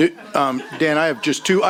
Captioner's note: chuckling